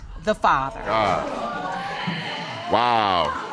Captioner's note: audience exclaims